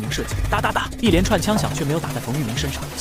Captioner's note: rat-a-tat-tat